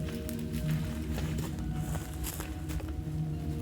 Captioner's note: rustles